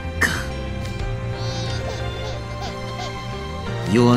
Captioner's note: crying